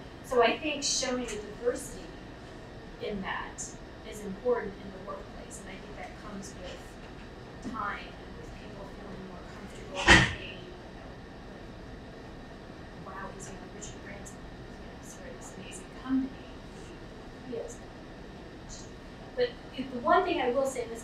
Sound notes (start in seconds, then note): 13.4 speaking away from mic; 17.2 speaking away from mic